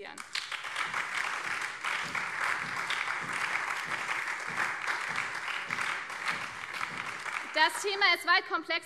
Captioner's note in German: Beifall BÜNDNIS 90/DIE GRÜNEN, CDU, Freie Demokraten und vereinzelt SPD